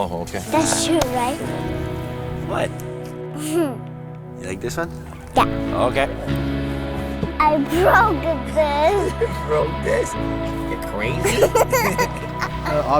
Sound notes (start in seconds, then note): 3.4 laughs; 11.1 both laughing